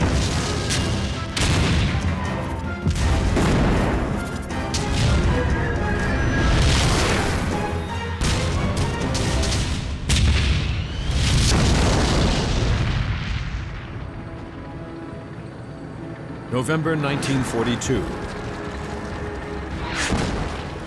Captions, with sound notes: (tank turrets firing) (tank exploding) (tank turrets firing) (tank exploding) (tank engines roaring) November, 1942. (shell exploding)